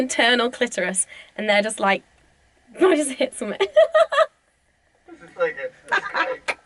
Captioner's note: laughs